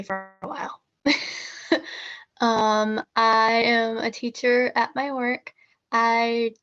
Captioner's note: laughter